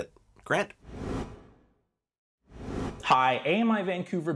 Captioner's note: graphic whooshing